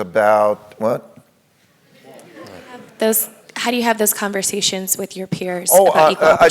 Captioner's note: laugh